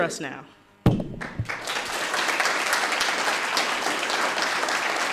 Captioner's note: audience applauding